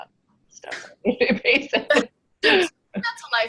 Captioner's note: laughs